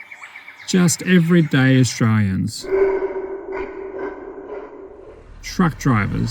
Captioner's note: scary howl